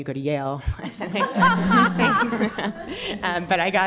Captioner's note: laughter